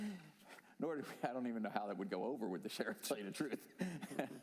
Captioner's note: laughter